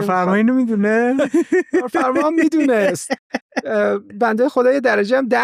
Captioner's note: laughs